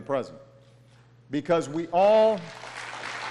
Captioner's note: applause